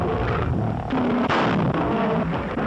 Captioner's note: gunshot